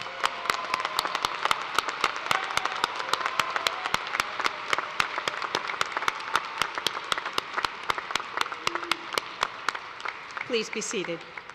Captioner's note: cheers and applause